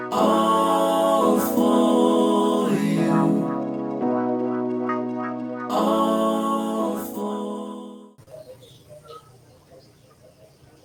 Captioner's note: intro music; cheerful tone